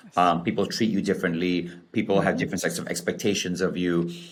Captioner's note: laughs